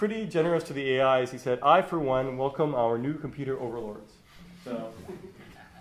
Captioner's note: laughter